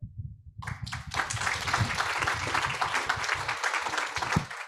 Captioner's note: audience applauds